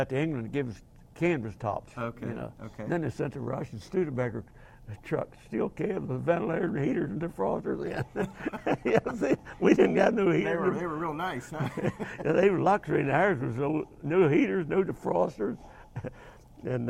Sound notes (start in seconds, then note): 7.8 laugh; 11.9 both laugh